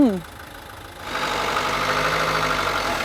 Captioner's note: engine noises